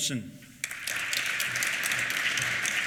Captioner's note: applause